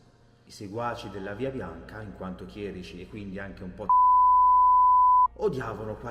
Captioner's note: beep!